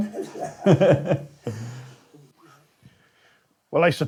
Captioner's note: laughing